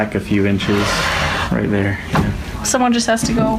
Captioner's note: wood scrapes against the desk